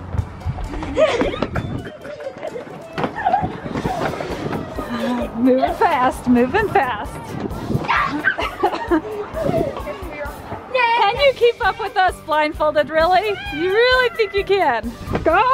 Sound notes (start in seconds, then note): 1.1 screaming; 7.6 screaming and laughing